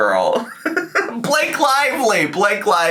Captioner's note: laughs